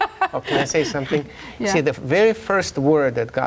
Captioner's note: laughing